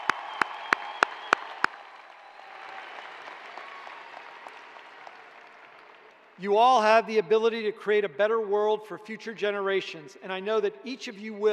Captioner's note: cheers and applause